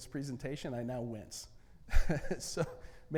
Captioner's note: laughs